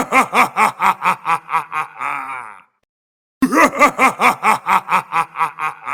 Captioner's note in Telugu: నవ్వు